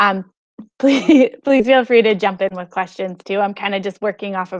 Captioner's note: laughs